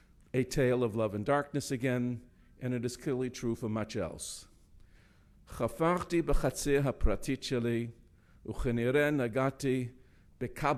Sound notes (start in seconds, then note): 5.4 speaking in foreign language